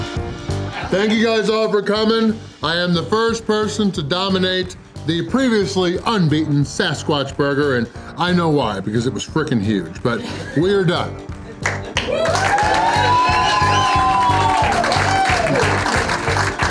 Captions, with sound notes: Thank you guys all for coming. I am the first person to dominate the previously unbeaten "Sasquatch" Burger and I know why, because it was freaking huge, but we're done! (Crowd clapping and cheering)